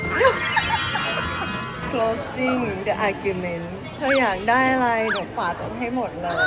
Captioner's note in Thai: เสียงกรีดร้อง